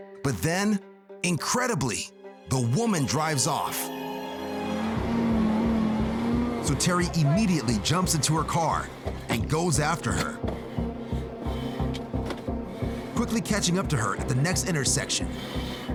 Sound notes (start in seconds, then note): 10.9 breathing heavily